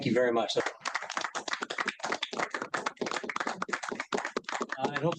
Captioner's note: applause